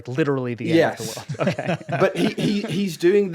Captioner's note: all laughing